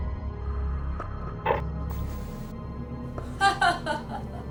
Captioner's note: static buzzing; Zilia laughing